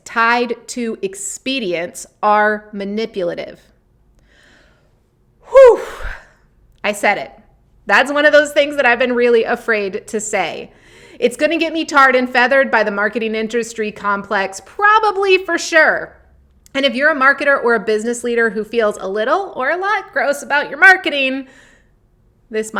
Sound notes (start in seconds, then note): 5.5 sighs